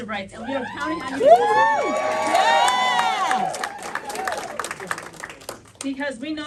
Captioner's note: cheering